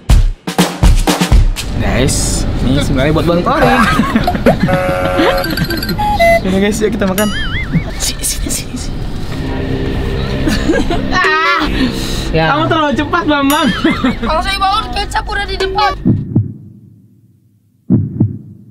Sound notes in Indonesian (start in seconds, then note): 3.6 Tertawa